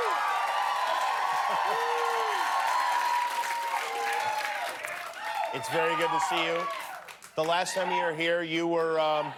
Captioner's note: cheers and applause